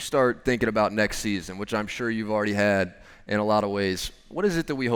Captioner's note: none